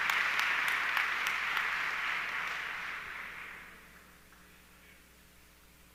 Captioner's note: audience clapping continues